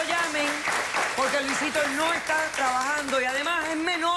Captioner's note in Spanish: Aplausos